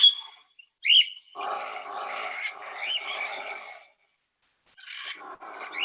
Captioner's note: growling, chirping